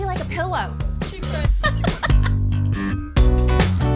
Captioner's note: laughs